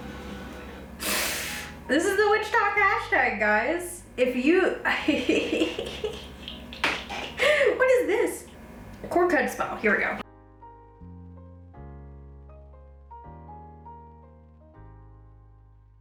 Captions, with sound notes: - This is the witch-tok hashtag, guys. If you, (laughs) what is this? Cord cut spell. Here we go. (gentle upbeat music)